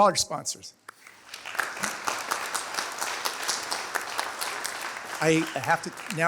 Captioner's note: applause